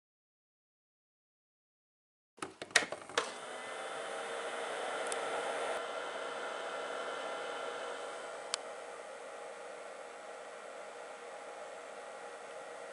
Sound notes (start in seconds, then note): 2.4 click; 4.4 soft whirring